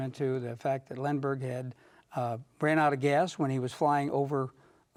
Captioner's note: none